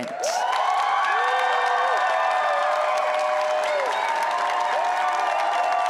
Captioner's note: applause